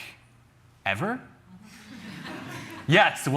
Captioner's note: chuckling